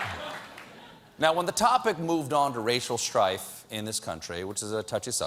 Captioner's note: laughter